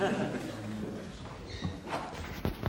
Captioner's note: laughter